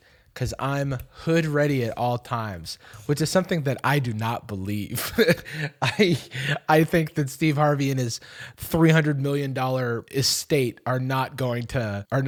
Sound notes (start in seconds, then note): 5.0 chuckles